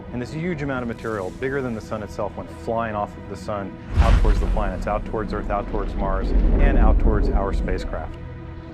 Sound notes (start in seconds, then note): 3.8 loud blast